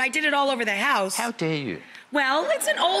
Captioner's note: audience laughs